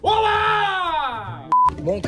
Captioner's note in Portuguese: som de bipe